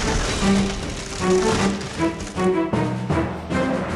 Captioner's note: crunch crunch